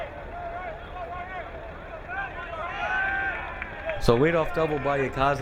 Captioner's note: crowd cheering